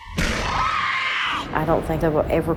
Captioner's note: Candace Re-Enactor screaming